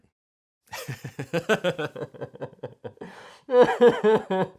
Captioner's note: laughing